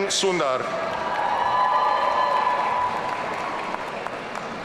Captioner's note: audience cheering